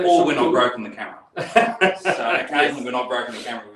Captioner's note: laughs